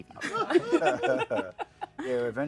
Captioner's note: laughter